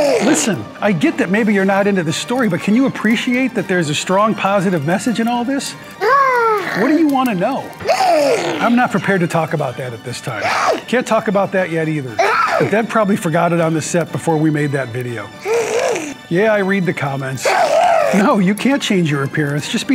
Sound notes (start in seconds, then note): 0.0 Whiskers gasps; 7.8 Whiskers grumbles; 10.4 Whiskers grunts; 12.7 Whiskers grunts; 17.4 Whiskers grunts